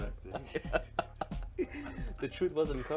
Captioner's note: laughing